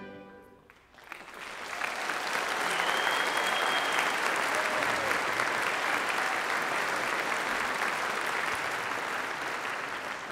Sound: applause

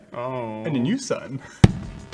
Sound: none

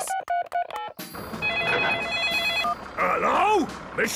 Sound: phone ringing; phone beeping

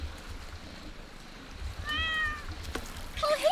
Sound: meows

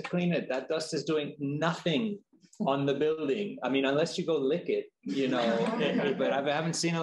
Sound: chuckling

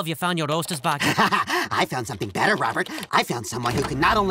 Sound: chuckles

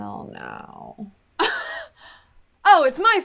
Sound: angry laughter

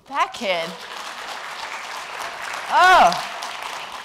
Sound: applause

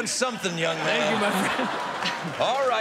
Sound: laughter

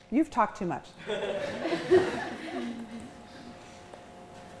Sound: chuckling

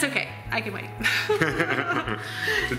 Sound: laughing

